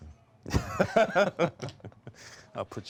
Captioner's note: both laugh